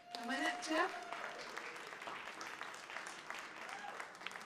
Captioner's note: applause